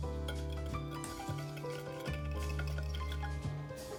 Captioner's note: whisking